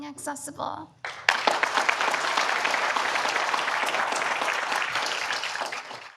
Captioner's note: audience applause